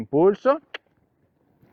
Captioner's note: cluck